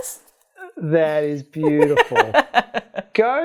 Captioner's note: laughs